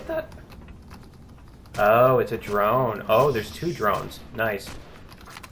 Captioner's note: drone screech; drone humming; klaxon; pulse rifle